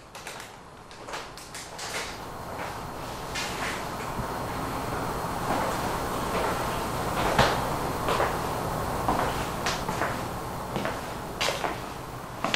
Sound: soft footsteps

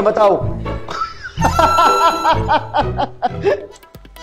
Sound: laughing

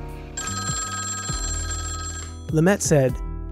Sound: ringing Telephone

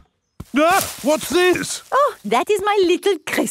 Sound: exclaims

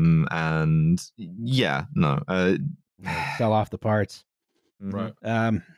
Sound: sighs

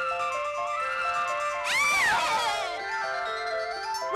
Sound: confused screaming

